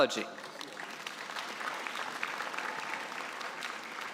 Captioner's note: applause